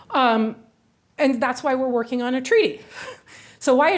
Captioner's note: chuckles